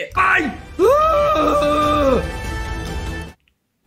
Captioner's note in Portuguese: resmunga